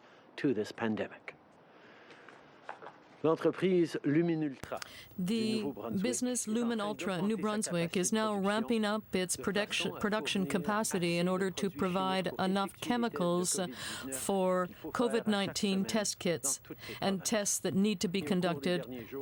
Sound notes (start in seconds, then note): 5.9 speaking french